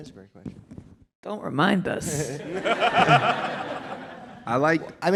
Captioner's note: laughter